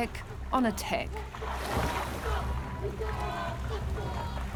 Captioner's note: haka continues